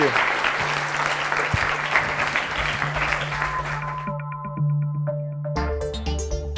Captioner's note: audience applauds; soft upbeat electronic music